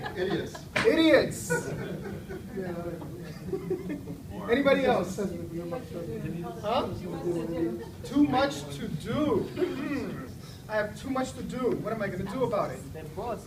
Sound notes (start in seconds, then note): 1.3 audience laughs